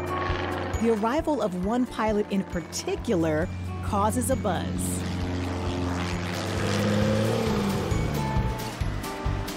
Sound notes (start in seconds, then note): 6.0 Porsche engine purrs